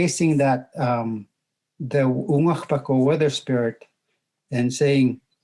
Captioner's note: speaking in Native language